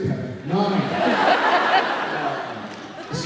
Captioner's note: laughs